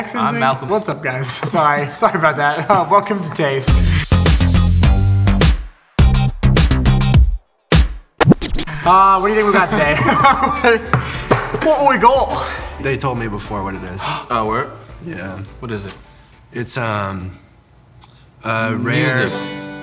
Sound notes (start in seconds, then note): 3.6 funky music; 9.4 both laugh; 14.0 gasps